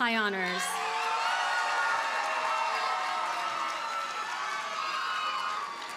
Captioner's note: audience cheers and applauds